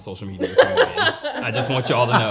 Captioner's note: laughing